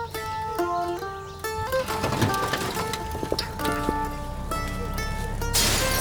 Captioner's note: glass and wood shattering